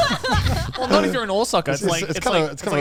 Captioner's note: laughs